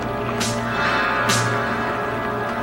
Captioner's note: popping